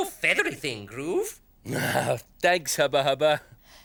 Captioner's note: Groove laughs